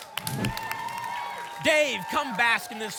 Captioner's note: whoosh